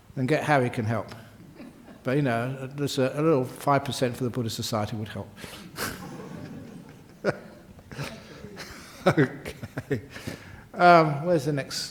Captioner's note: laughter